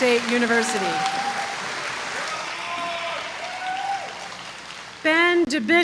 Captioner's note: applause